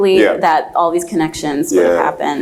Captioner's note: laughs